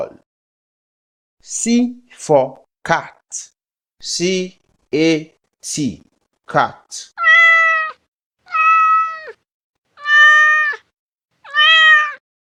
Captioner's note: sound: Meows